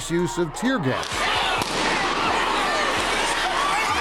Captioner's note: gun bangs